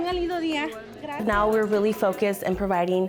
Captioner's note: speaking Spanish